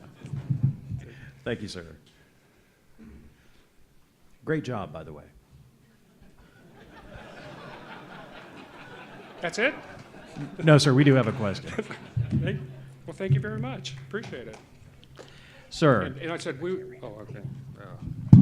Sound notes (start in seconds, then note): 6.3 loud laughter